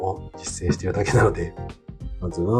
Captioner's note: laughs